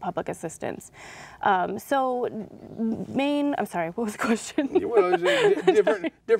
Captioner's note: laughing